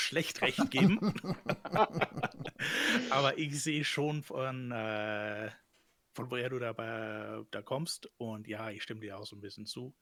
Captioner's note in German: gelächter